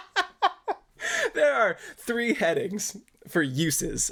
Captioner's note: laughing